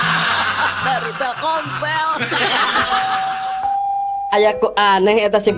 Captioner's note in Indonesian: tertawa